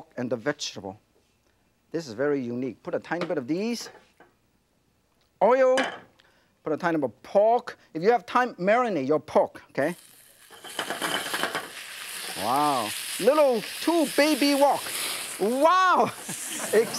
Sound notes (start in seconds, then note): 9.8 pork sizzles; 10.1 frying pan scrapes